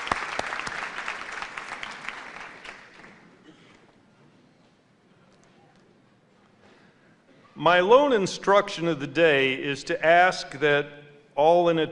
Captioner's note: applause